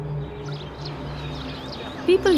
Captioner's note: birds chirping